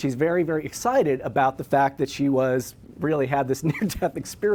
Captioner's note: laughs